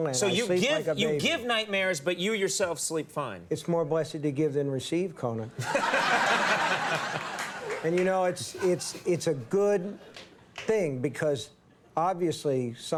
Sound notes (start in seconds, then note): 5.6 audience laughing; 5.7 Conan laughing